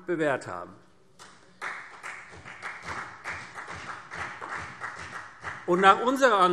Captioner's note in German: Beifall CDU